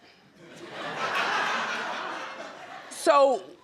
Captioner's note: audience laughs